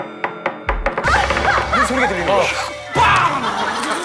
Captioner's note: thump thump thump!